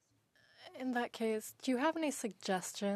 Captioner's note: speaking French